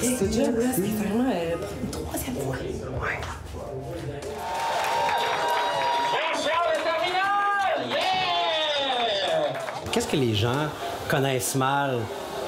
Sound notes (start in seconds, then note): 4.3 shouts and applause